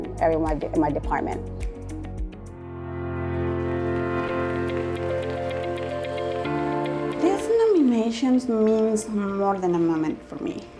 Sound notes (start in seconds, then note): 2.5 bright music; 3.6 audience applauding